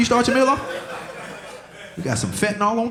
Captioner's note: audience laughing